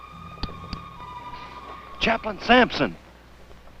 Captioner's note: clicking